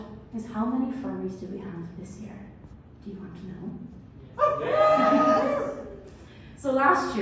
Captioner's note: cheers